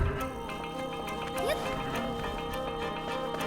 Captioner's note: Zelda grunting; dramatic orchestral music; Zelda grunting; dramatic orchestral music